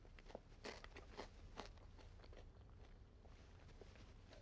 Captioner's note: food crunching